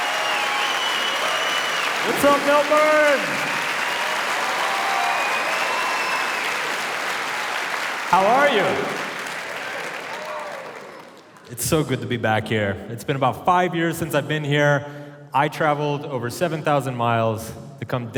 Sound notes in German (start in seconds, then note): 3.3 Publikum jubelt und applaudiert; 8.1 Publikum unterhält sich